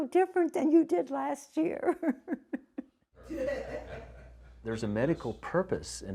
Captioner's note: laughs